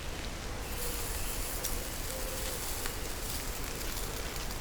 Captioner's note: sizzle